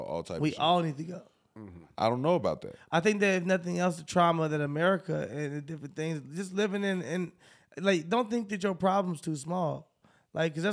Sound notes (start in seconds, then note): none